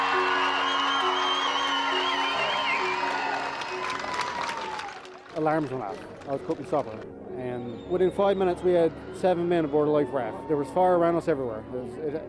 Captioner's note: cheers and Applause